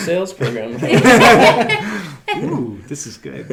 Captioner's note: laughing